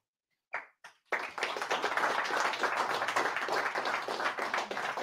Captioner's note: audience applauding